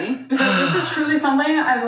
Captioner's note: sighing